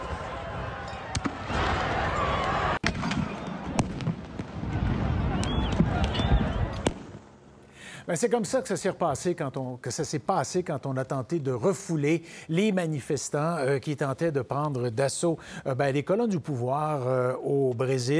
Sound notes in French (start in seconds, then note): 3.4 cris de la foule et tirs